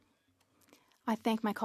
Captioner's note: speaking French